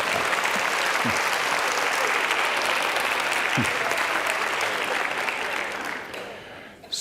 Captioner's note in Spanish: risas; aplauso